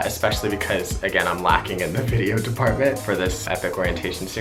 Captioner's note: laughs